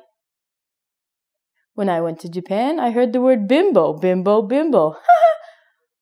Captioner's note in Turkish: Gülüşmeler